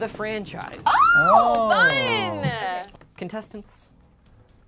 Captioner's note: claps